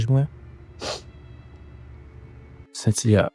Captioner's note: Sentilia starts crying